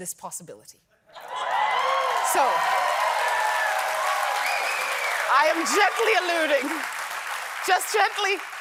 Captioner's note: cheers and applause